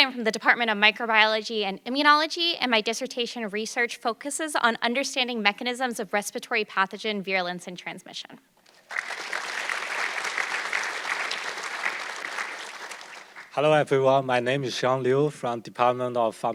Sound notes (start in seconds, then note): 8.6 audience clapping